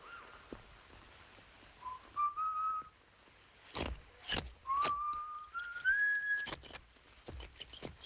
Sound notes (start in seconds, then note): 1.8 whistling; 4.6 whistling